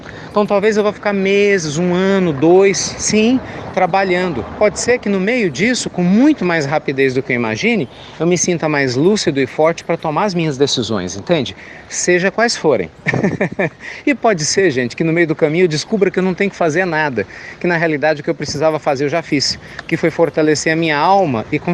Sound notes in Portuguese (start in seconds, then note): 13.0 Risos